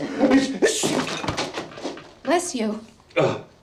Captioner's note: Peter sneezes